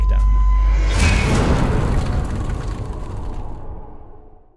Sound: impact

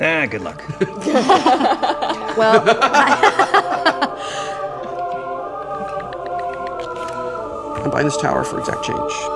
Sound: laughter

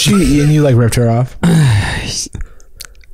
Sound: clears throat

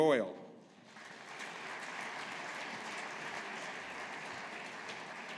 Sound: audience applauding

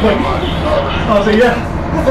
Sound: laughs

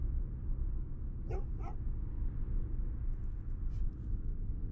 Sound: dog barks

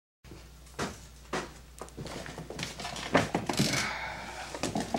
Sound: footsteps thudding; exhales

